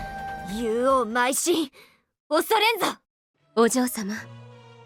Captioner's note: glint!